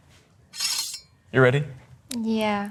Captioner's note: sword slicing